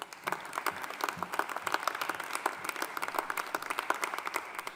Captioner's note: audience applauding